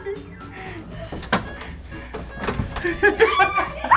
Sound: parents laughing; door clicking; girl screams

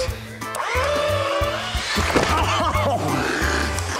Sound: belt sanders whirring; chuckling

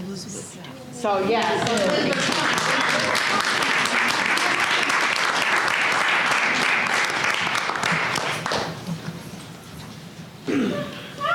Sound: applause

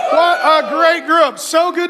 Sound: audience applauding

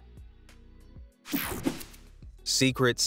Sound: air whooshing

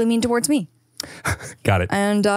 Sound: chuckles

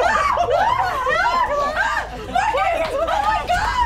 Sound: shrieking

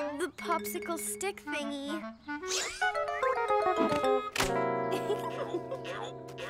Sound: giggling

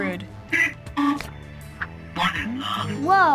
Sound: robotic voice

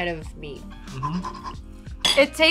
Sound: panting

